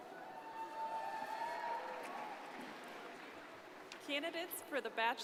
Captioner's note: crowd applauding